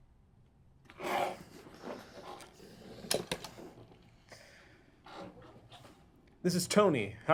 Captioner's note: Tony exhales; chair shuffles